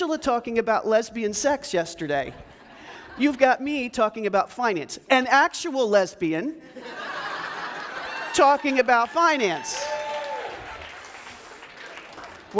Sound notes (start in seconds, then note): 6.6 audience laughs; 10.8 audience claps